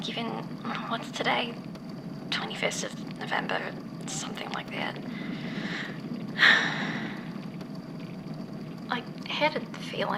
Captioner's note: inhales shakily